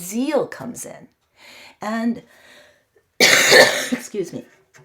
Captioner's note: cough